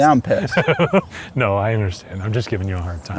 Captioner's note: laughs